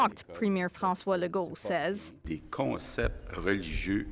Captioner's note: speaking French